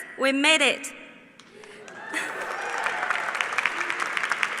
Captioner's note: applause